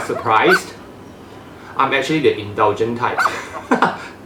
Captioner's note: laughs